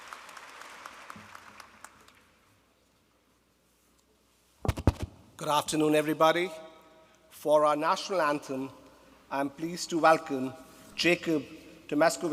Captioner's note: applause